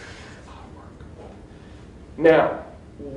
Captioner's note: whispers